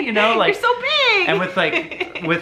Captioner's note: laughs